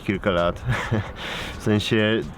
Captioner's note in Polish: śmiech